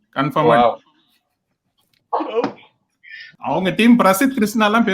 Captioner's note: laughs